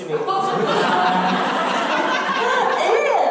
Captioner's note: audience laughter